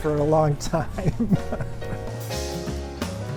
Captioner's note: laughing; jazzy music